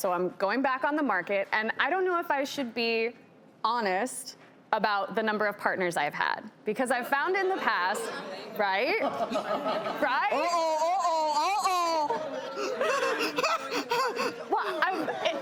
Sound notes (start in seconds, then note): 9.0 audience members laugh; 12.4 laughs